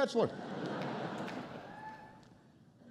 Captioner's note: laughter